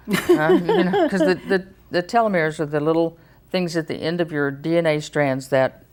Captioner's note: laughs